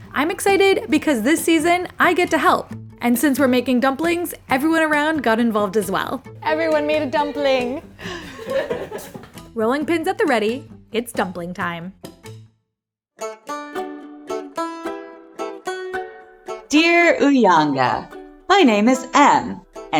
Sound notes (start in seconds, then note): 8.0 all chuckling; 13.2 gentle folk music